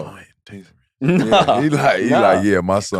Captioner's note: laughs